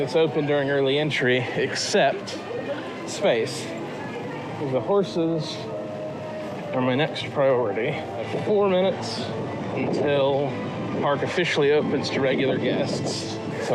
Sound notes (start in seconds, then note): none